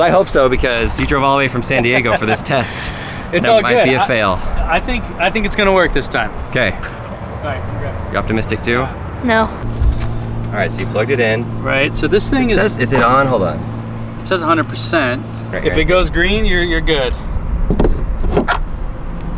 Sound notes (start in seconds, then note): 2.6 laughs